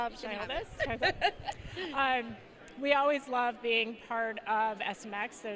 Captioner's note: laugh